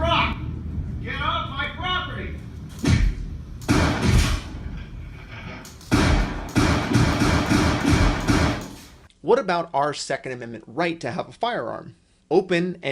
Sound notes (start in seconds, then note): 8.5 gunshots